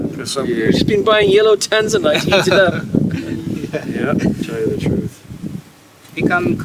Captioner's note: all chuckle